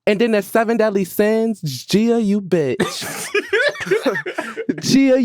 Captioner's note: laughing